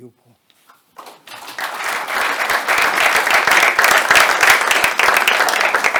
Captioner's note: attendees applauding